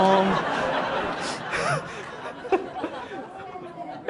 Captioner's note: audience laughs